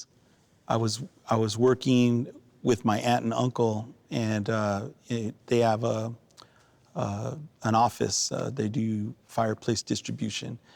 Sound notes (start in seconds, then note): none